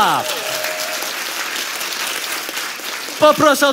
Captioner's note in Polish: oklaski publiczności